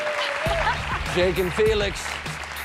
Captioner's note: cheers and applause